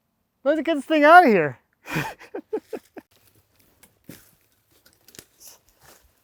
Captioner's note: laughs